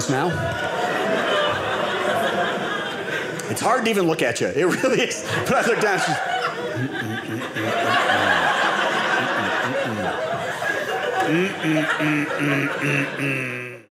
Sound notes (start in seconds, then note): 0.1 audience laughing; 6.7 audience laughing